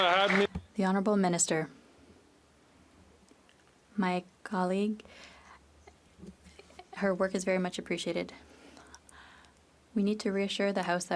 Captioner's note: applause